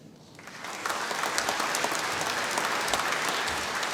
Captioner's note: applause